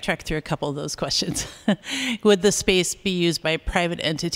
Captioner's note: laughter